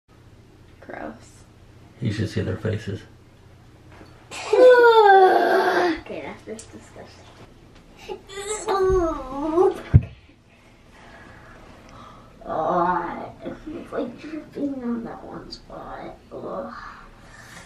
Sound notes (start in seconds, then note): 4.3 children groaning; 8.2 groaning